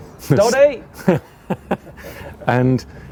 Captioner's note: both laughing